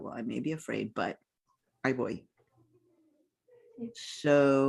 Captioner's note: speaking in foreign language